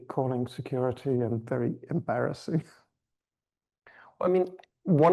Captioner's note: chuckles